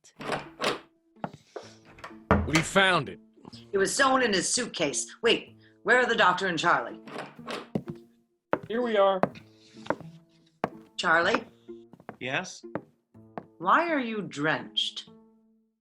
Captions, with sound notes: (Door opens, footsteps, door closes) - We found it! - It was sewn in his suitcase. Wait, where are the Doctor and Charlie? (Door, footsteps, door closes) - Here we are. - Charlie? - Yes? - Why are you drenched?